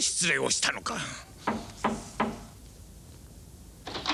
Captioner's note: knock